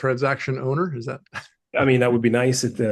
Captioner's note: chuckles